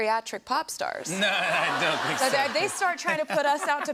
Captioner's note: laughter